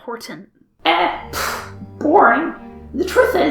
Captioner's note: pfft